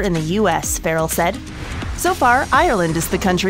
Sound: air whooshing

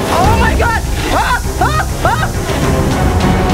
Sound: yells; gasps

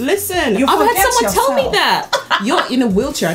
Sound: laughs

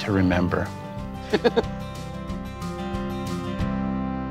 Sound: laughs

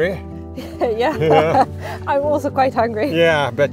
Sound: laughs

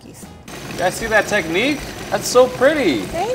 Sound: food processor whirs

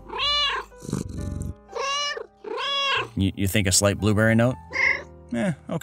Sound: meow, meow meow; meow

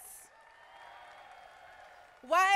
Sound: crowd applauding

